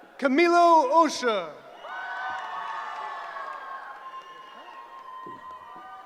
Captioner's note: cheering